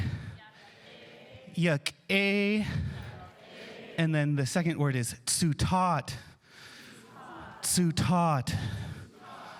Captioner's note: speaking indigenous language